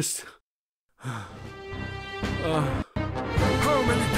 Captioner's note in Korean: 한숨